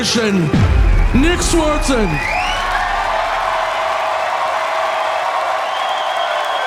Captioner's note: audience cheering; audience applauding